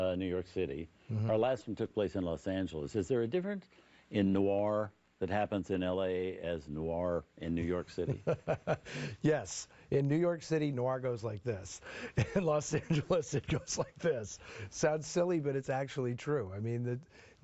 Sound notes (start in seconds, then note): 8.0 laughs